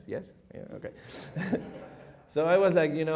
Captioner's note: chuckles